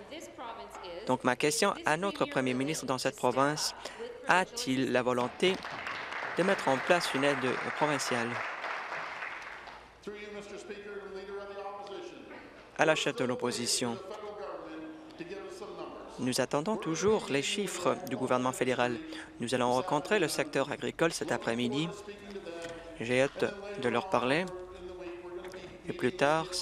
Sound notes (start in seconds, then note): 8.9 applause